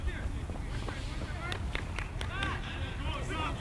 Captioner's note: players shouting